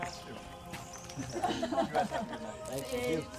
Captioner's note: laughs